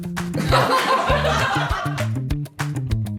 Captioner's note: laughter